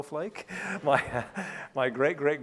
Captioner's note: laughing